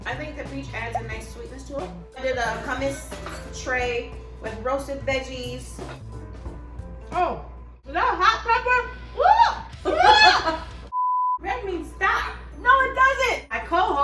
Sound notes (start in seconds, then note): 9.2 screams; 9.8 laughs; 10.9 beep